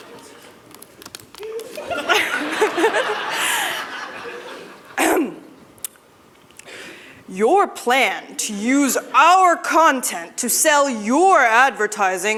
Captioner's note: laughter